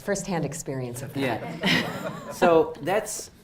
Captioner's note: audience laughs